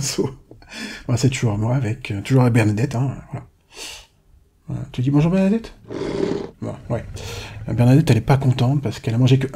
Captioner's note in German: grunz